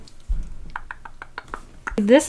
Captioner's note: thinking tongue clicks